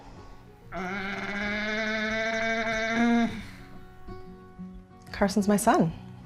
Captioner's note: vocalizes